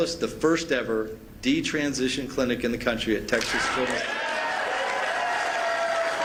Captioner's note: applause